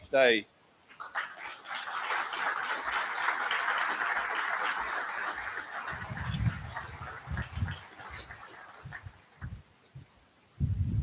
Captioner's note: applause